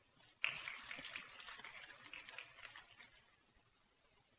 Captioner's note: applause